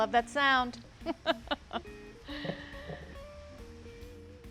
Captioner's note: laughs